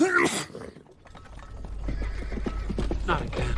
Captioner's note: sneeze; hooves approaching